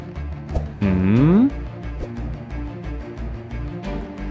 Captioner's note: hums